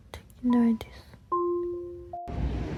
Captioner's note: sounds of the city and the sound of an ambulance